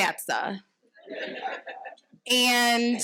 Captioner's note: audience laughing